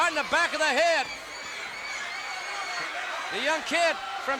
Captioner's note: crowd yelling